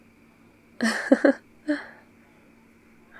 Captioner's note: laughs